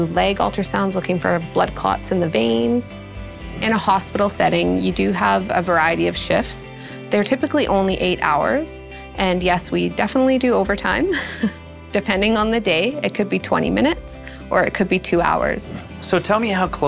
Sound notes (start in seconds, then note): 11.1 laughs